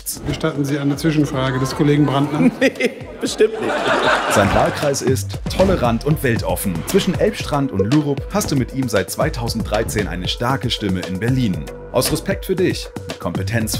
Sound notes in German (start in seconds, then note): 3.9 Gelächter